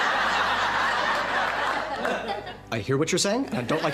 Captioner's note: audience laughing